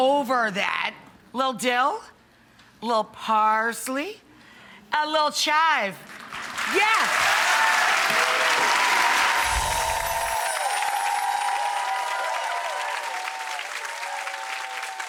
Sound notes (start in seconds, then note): 7.0 audience applauds; 9.1 audience cheers; 9.3 bells chime